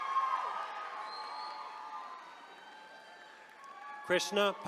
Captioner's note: attendees cheering